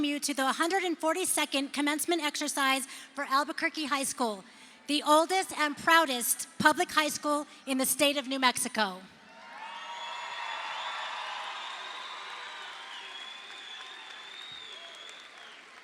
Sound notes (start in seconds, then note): 9.2 crowd cheers